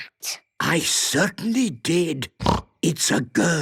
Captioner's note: snorting